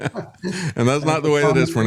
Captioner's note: laughing